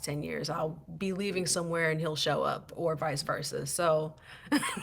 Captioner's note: laughter